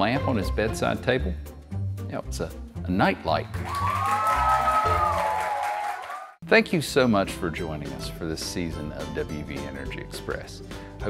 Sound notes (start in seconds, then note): 3.5 audience cheering